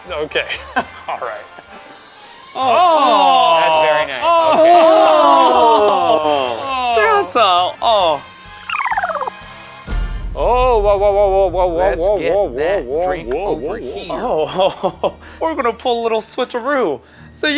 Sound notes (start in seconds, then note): 0.9 laughs; 8.6 film rewinding